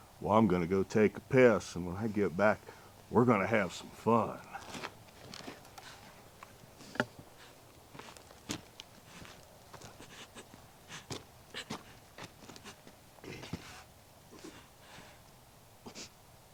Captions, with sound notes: Well, I'm gonna go take a piss and when I get back, we're gonna have some fun. (Nellie sobs) (grunts)